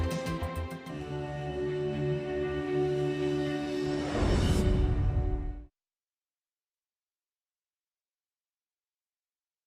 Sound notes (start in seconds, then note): 0.0 gentle rhythmic music continues; 0.0 gentle soothing music; 3.8 air whooshing